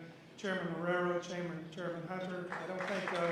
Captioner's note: applause